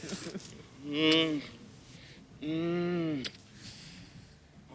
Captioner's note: moans